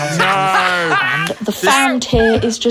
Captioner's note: laughing